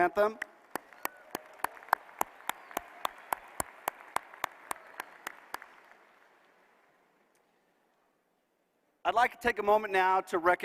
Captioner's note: applause